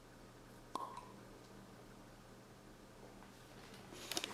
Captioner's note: wine uncorking